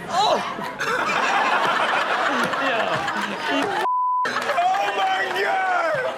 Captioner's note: everyone laughs